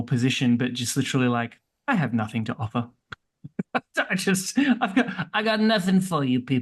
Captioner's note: laughs